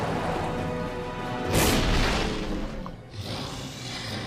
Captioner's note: atmosphere rumbling; sphinx growling